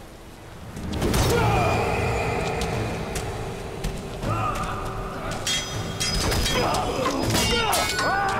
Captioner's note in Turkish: Dövüş sesleri